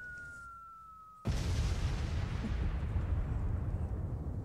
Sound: bomb explodes

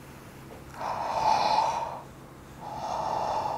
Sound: gasps

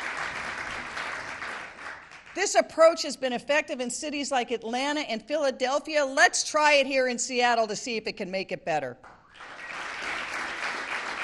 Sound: applause

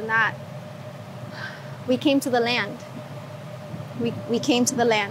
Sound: sighs

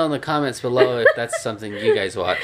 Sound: chuckles

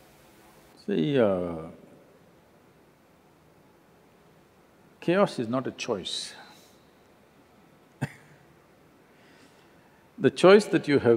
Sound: laughs

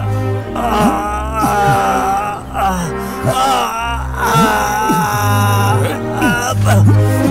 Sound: groans

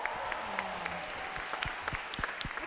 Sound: cheering

